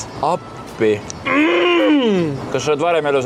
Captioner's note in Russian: хрустящие голоса